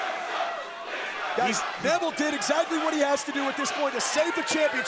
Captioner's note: crowd chanting